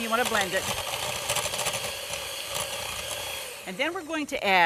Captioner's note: blender machine roaring